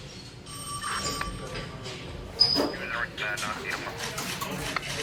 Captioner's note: crowd murmuring